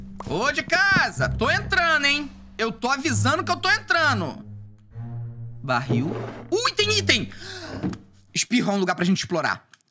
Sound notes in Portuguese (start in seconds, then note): 7.4 suspirando